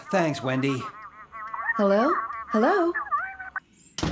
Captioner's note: customers Chattering